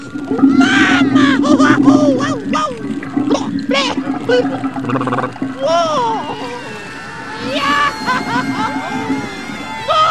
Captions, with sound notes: MAMMA!!! HOO HA HOO! (*warbles and spits*) WhOOAah!!! YeAAAAH!!! Ha ha hoo!